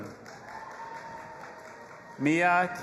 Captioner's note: audience applauding and cheering